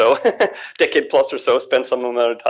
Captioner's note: laughs